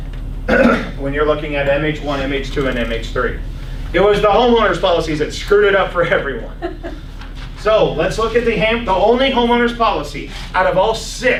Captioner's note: laughs